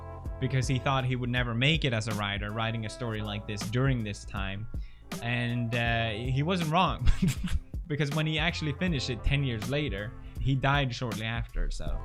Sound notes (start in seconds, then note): 7.0 chuckle